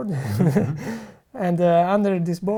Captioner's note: laughs